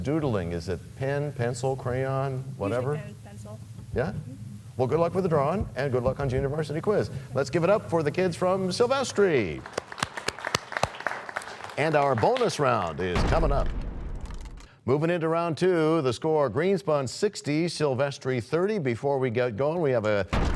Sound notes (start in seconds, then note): 10.9 applause; 15.1 crashing sound